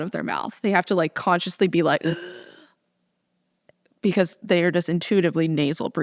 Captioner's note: gasping sound